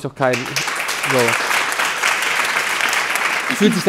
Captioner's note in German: Applaus